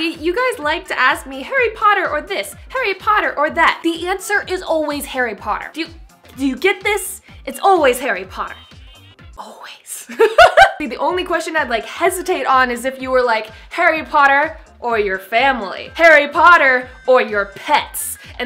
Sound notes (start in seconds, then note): 10.1 laughs